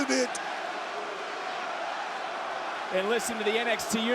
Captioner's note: audience chanting